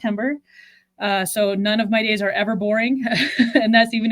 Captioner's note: chuckles